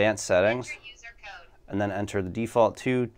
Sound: digital voice

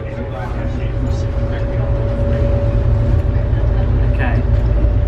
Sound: tram rumbling

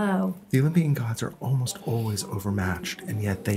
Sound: voiceover

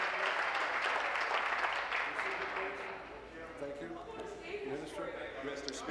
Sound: applause

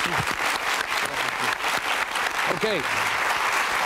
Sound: audience applauding

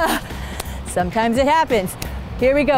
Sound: laughs

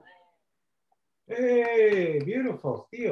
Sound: cheers

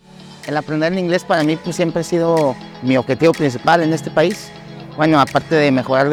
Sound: speaking in foreign language

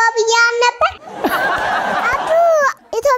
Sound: laughter

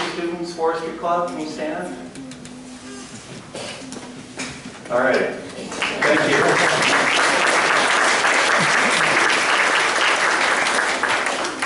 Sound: applause

